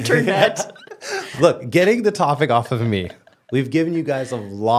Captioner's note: laughing; laughs